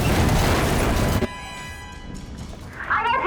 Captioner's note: beeps